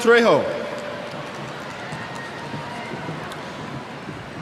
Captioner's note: cheers